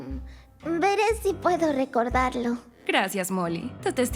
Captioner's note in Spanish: Nerviosamente